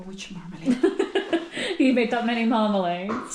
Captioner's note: laughter